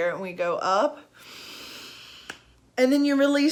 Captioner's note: inhaling